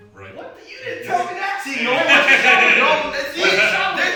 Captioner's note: laughing